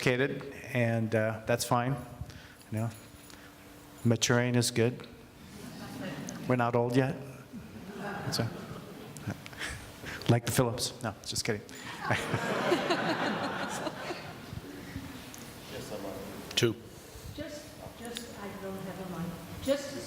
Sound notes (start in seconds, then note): 6.2 laughing